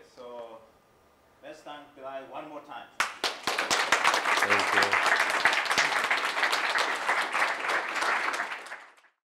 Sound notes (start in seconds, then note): 6.0 applause